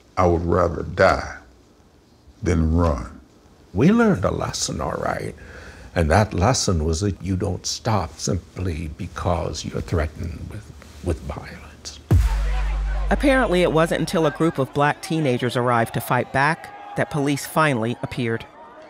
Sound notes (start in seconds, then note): 12.1 foreboding music; 12.2 people shouting